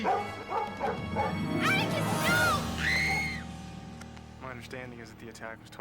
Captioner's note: screams